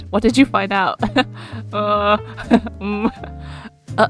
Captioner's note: laughs